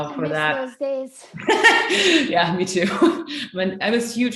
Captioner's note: laughs